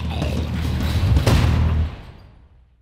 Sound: zombie growls; door slams

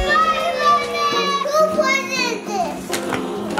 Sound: kids shouting

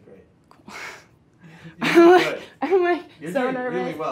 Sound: laughs

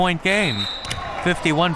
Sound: whistle

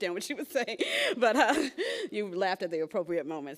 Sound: laughs

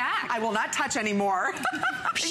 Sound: laughter

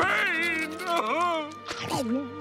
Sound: crying

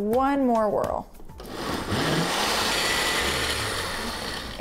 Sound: blender whirring

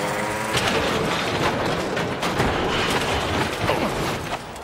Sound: metal crashing

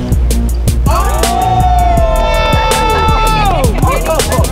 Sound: crowd cheering

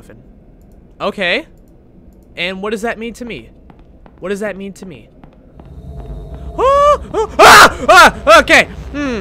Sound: screams

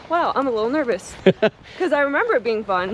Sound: laughing

